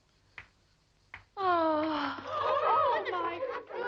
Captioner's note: girl gasps